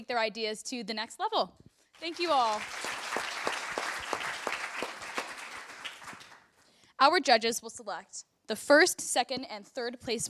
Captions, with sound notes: their ideas to the next level. Thank you, all. [APPLAUSE] Our judges will select the first, second, and third place